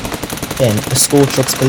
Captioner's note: explosion 💥